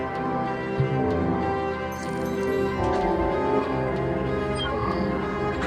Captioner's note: computer chirping and warbling